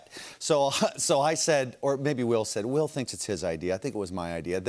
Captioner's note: none